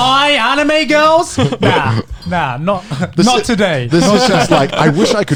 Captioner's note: laughs